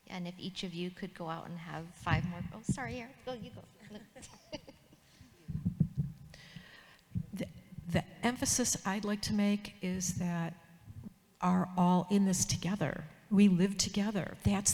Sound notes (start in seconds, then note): 3.6 chuckles